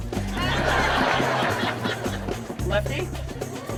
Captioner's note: audience laughing